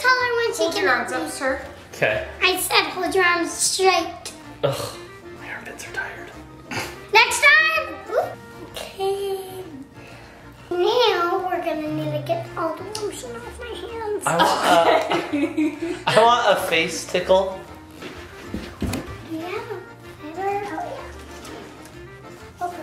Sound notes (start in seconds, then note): 14.2 laughing